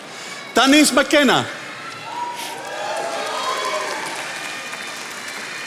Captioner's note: attendees applauding